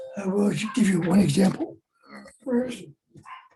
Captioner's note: dogs Barking